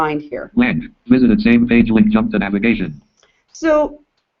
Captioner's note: JAWS speaking